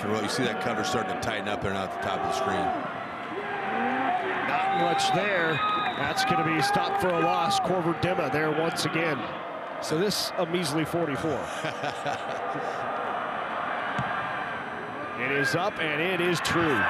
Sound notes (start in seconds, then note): 4.5 referee blows whistle; 11.2 chuckles